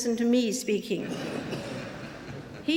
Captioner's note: laughter